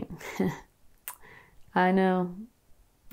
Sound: chuckles

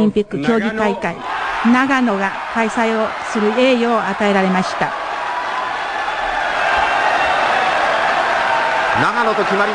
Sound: crowd cheers

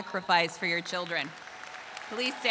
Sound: crowd applauding

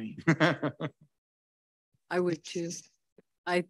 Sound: laughs

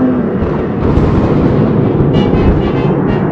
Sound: distorted; lighting Strike

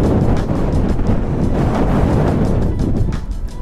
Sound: very blustery wind

